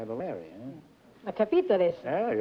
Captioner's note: speaking italian